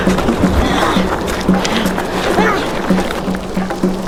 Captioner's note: both grunting; dramatic music